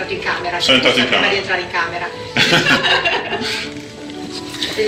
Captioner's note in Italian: Risate